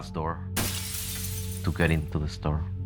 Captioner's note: glass shatters